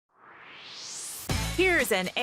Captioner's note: swoosh